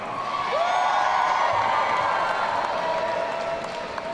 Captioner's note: audience cheering